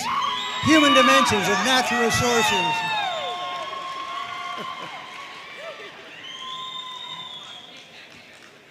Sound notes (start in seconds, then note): 0.1 audience cheering and applauding